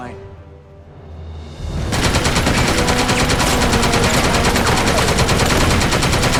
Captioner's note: machine gun shooting